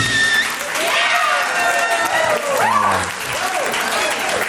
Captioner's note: applause and cheering